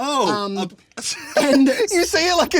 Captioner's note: laughing